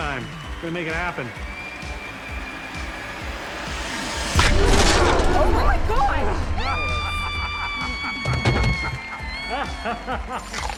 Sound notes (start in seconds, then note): 0.0 audience cheers, applauds; 4.0 audience gasps; 6.2 body thuds; 6.2 screams; 10.1 laughs, chomps